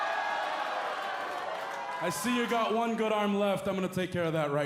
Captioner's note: cheers and applause